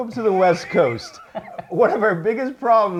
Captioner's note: laughs